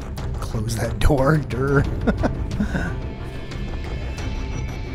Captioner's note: chuckle